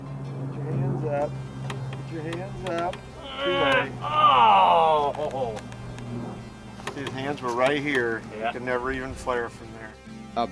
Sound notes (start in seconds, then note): 3.2 groans and laughs